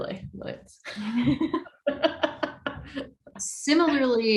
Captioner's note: laughing